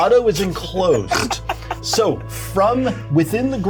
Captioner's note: Omin laughing